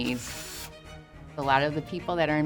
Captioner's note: drilling